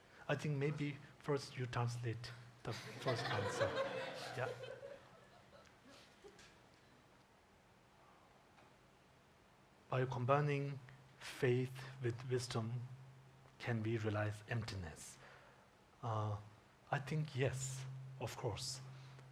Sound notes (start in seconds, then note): 2.7 audience laughs